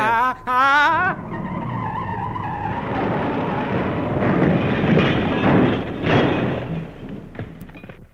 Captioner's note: sound of a car braking and crashing